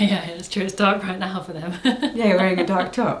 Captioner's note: laughs